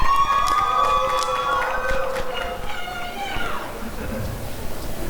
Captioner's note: applause and cheering